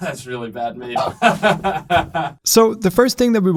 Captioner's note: laughs